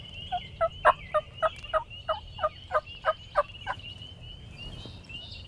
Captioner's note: hunter using turkey call